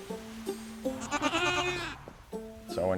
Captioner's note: gentle guitar music; goats bleating